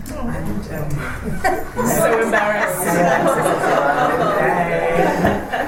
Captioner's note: panellists and audience laugh